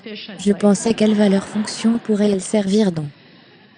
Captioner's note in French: des rires